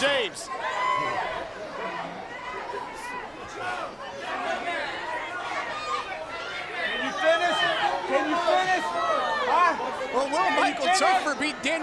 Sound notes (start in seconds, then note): 1.8 crowd chatter